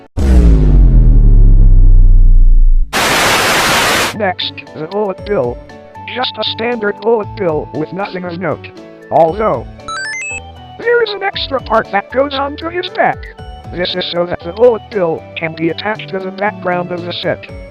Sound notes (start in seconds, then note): 0.0 vine boom + bass boost sound; 2.8 semi-loud static; 9.8 cute pixelated chime